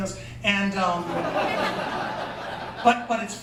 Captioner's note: laughter